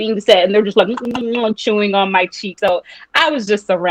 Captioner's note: chewing sounds